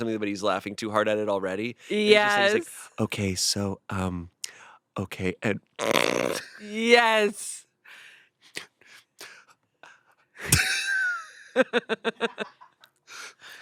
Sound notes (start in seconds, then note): 5.8 snorts; 10.4 they laugh